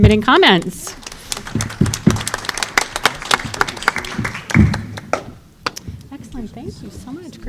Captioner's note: applause